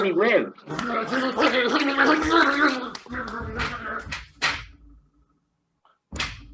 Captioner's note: more death noises